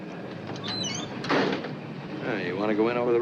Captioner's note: car door thudding